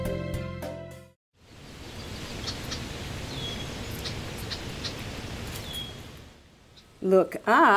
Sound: wind/birds

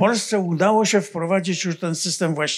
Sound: foreign language

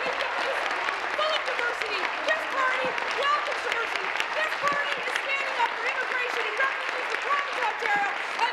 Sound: applause

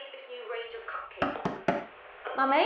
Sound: knock

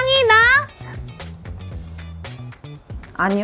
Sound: sniff

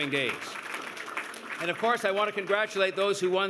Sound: applause

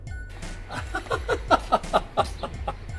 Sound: laughing

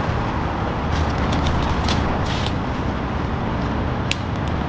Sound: footsteps crunching

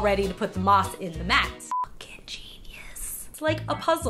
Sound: whispers

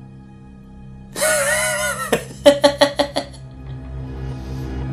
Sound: laughter

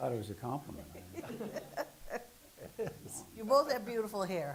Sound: laughing

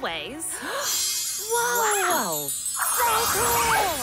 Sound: gasping in awe

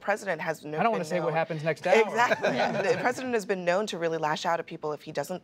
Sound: laughter

